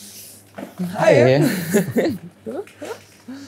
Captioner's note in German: lachen